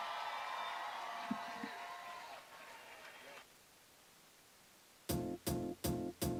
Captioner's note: cheering and applause